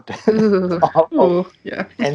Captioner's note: shudder